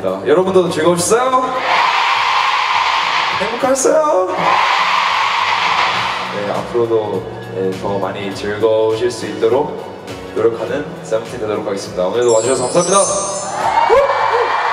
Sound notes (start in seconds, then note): 2.7 happy voice